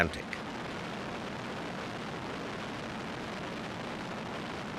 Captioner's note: plane roaring